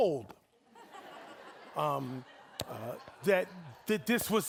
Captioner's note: audience laughing